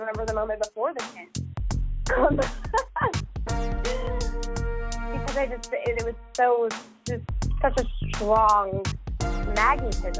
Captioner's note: laughs